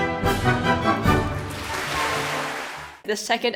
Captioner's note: clapclapclapclapclap